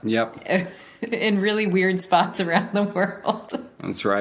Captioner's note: laughing